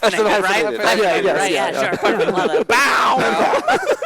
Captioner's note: laughter